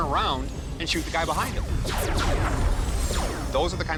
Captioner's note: laser weapon sounds